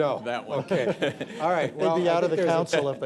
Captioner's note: laughter